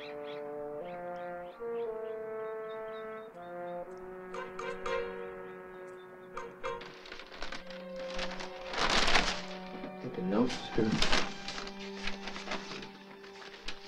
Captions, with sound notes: (whimsical orchestral music) (birds chirping) (papers rustling) - Got the notes here.